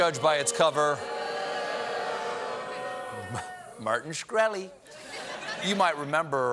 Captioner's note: audience booing